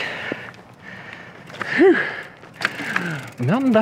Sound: heavy breathing

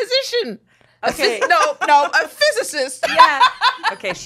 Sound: laughs

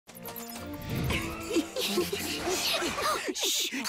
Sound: giggling

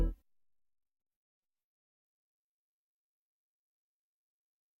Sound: silence

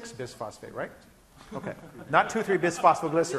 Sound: laughing

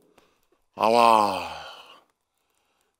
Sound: sigh

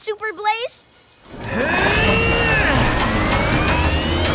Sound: grunting

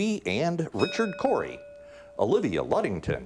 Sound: bell ringing

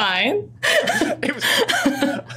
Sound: laughs

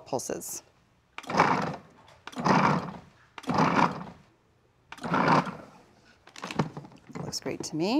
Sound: processor pulsing

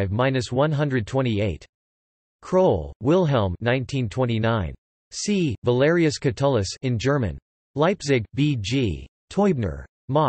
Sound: in German

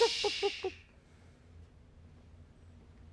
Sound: stops clucking

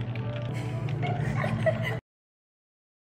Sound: cracking up out of the blue🤣

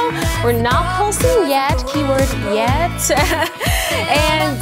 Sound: laughs

